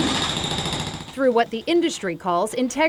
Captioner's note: drill machine whirring